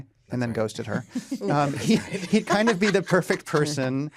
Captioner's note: laughter